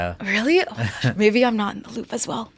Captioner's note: chuckling; laughs